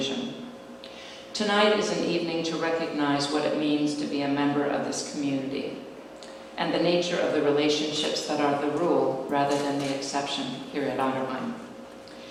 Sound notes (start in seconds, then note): none